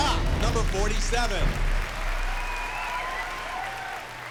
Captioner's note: cheers and applause